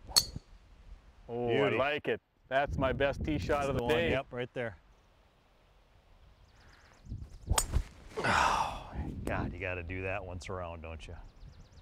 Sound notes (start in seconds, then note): 0.1 ping!; 8.2 exhales deeply